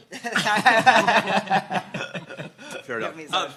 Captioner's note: laughing